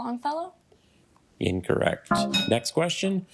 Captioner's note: bell dings; failure chime